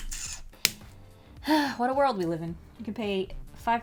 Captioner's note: sigh